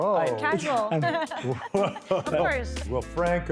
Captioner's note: laughing